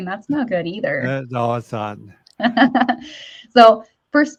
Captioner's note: chuckles